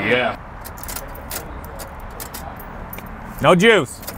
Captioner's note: keys jingle